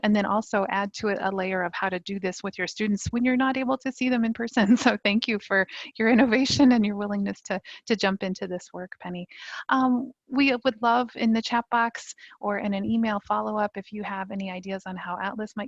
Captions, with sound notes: and then also add to it a layer of how to do this with your students when you're not able to see them in person (chuckling) so thank you for your innovation and your willingness to jump into this work, Penny. We would love, in the chat box, or in an email followup, if you have any ideas on how ATLAS